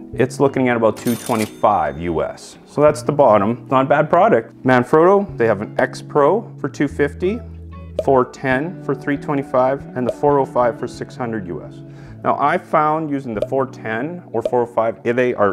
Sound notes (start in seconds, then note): 0.9 cash register clinks